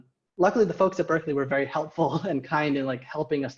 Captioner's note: laughing